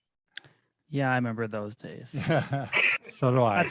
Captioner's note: laughs